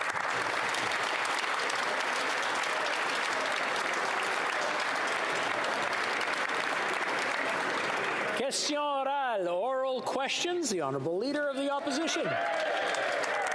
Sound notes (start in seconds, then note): 1.6 applause